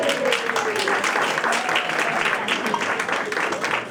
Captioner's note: applause and Cheering